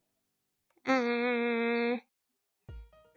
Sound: thinking sound

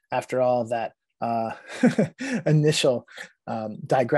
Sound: laughing

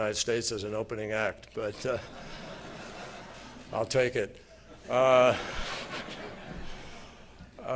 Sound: laughter

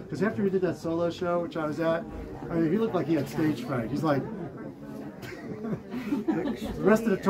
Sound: laughing

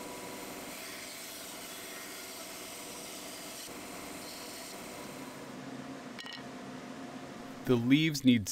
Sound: bandsaw running

